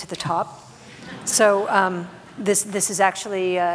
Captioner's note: audience laughs